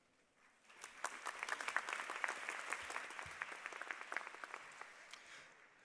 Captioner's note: applause